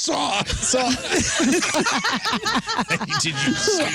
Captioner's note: laughing